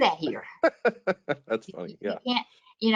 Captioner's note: laughing